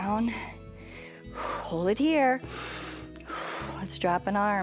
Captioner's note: inhales and exhales